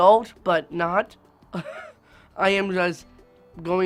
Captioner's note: laughs